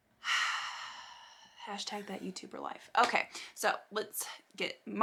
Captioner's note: sighs